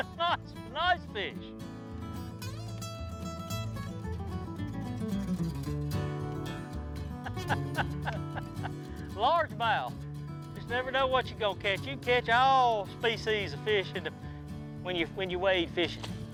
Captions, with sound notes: Ha ha, it's some nice fish! (laughs) Large Mouth. Just never know what you're gonna catch. You can catch all species of fish when you wade fishing.